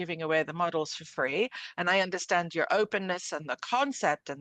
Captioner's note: speaking French